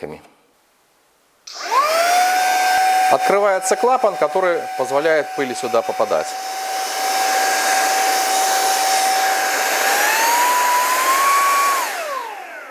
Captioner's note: motor noise